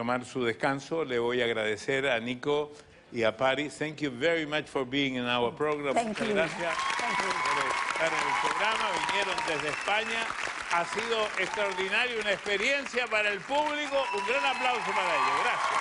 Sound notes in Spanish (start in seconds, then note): 4.6 habla en ingles